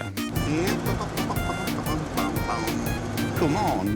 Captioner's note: humming